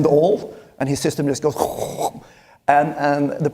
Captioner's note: makes whooshing sound